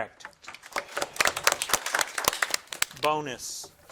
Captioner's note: audience applauding